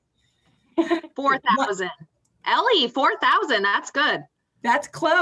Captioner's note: laughs